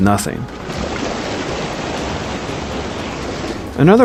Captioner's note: wave crashing